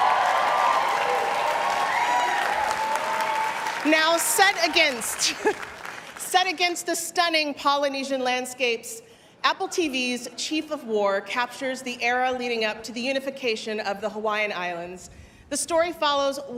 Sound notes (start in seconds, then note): 7.0 cheers and applause